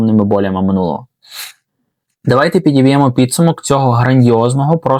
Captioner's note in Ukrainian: сопіння